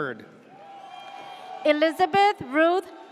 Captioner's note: audience cheers